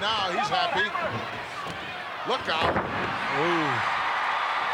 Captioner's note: ground thudding